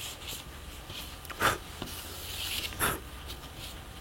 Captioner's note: he blows